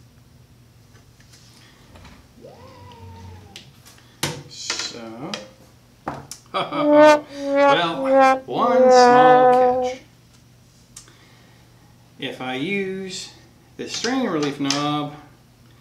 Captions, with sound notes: (3D printer whirrs) So... (softly laughs) (sad trombone playing) Well, one small catch. If I use the strain relief knob,